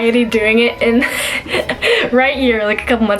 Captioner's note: laughs